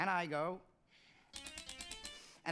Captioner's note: typewriter clicking musically